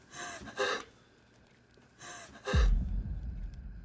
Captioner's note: Maria sobbing